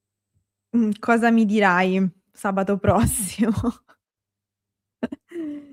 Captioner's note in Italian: risate